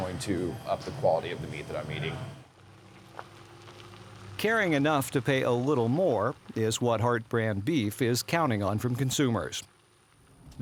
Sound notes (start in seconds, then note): 4.6 voiceover